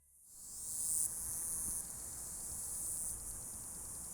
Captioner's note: bugs singing